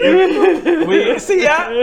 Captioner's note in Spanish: gemidos